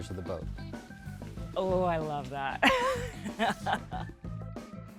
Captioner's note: laughs